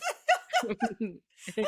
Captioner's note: laughing